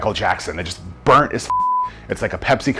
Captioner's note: beep